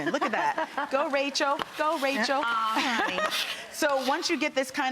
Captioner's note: laughs loudly